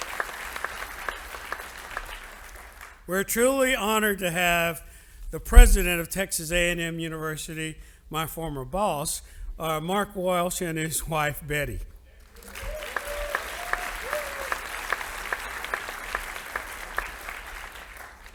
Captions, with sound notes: We're truly honored to have the President of Texas A&M University, my former boss, Mark Welsh, and his wife, Betty. (audience applauding)